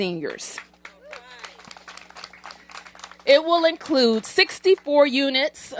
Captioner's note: applause